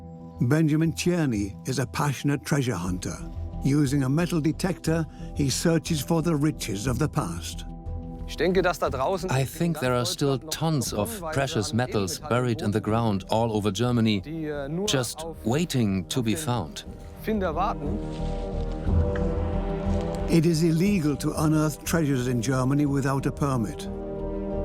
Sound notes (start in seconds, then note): 8.2 in German; 9.5 dubbed in English